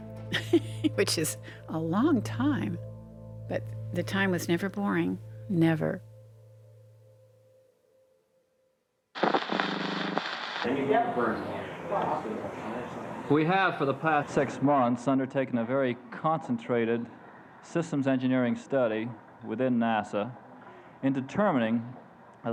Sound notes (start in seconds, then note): 0.3 laughing; 9.1 static hissing; 10.7 people talking in background